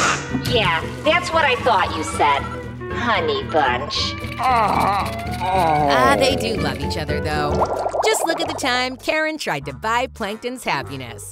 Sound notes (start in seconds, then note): 4.0 groaning